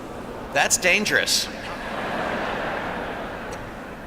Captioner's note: laughter